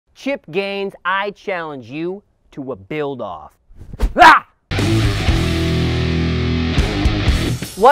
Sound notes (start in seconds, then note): 4.0 shouts loudly; 4.7 rock music